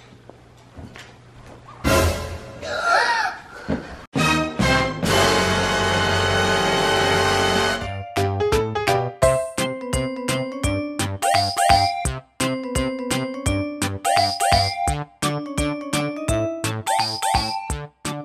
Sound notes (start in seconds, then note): 3.5 gasp